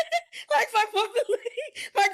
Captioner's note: laughing